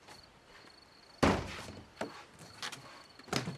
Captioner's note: door slamming